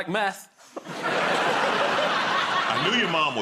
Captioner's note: laughter